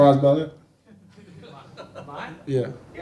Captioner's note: people laughing